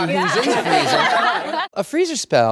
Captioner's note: group laughs